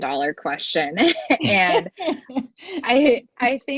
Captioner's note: laughter